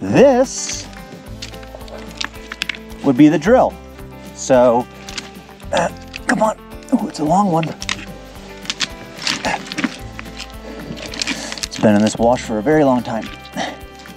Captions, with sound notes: This, would be the drill. So, (grunting) come on. Oh, it's a long one. (feet shuffling) It's been in this wash for a very long time.